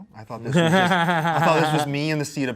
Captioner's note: laughs